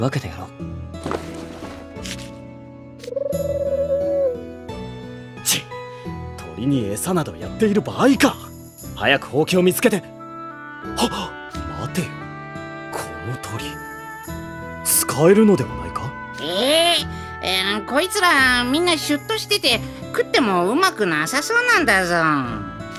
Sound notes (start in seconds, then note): 11.1 gasp